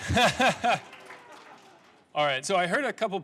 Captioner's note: clapping; laughing